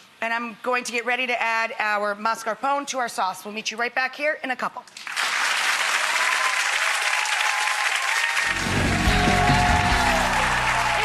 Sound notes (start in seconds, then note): 5.0 audience applauds; 8.5 upbeat music